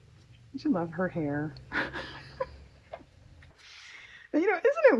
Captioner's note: laughs